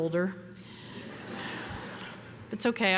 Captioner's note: audience laughing